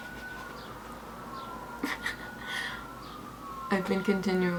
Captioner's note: giggles